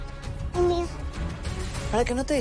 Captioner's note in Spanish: Santita balbucea